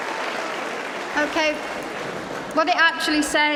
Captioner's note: applause